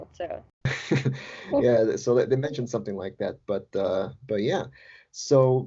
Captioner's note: laughs